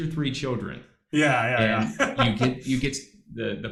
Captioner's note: laughs